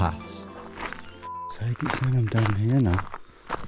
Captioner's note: beep